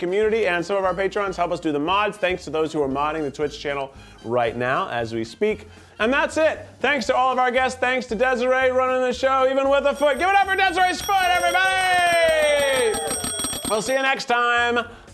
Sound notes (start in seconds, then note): 11.8 bell ringing; 11.8 crew cheering